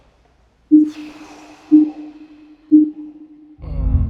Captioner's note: countdown chiming; audio beeping